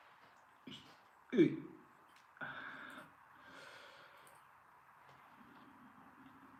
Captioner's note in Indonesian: terkesiap